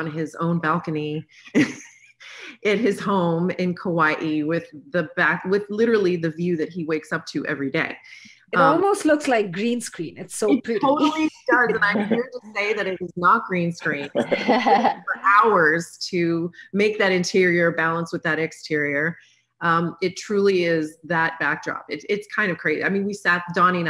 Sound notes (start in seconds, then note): 1.3 laughs; 14.0 chuckle